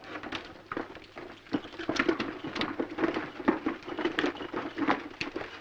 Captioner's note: hooves pounding